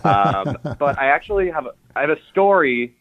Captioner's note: laughs